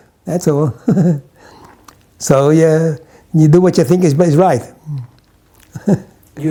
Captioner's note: chuckles